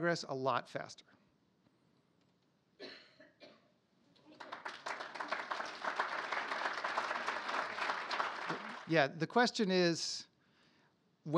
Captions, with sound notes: a lot more than you think, in a lot of ways, we can make a lot more progress, a lot faster. (applause)